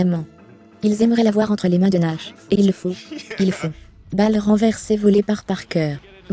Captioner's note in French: des rires